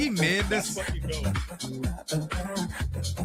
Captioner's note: laughing